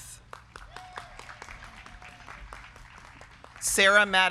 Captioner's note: crowd clapping